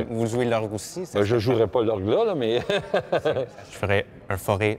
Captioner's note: laughs